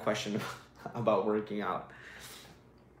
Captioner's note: laughs